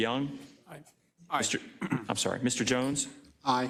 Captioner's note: cough